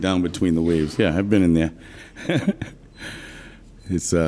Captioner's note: laughs